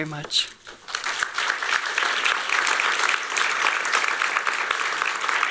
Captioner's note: applause